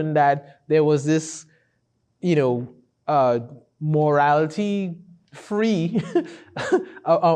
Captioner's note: laughs